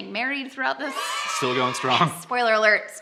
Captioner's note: children cheering